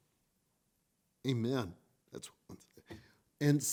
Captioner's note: murmurs